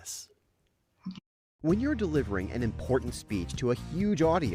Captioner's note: voiceover